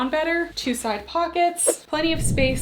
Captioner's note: screen whooshing